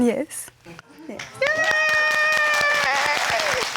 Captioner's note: all applauding and cheering